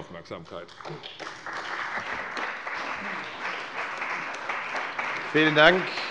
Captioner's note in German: Beifall bei der CDU und dem BÜNDNIS 90/DIE GRÜNEN